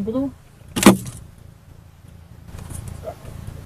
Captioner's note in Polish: dźwięk wyrywanego sprzętu